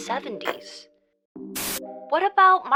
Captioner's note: static hisses